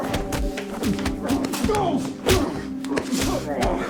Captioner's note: smacking; grunting; dramatic music